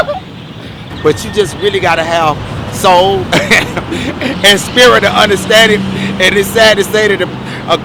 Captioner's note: laughs; laughs